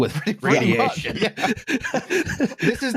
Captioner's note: laughter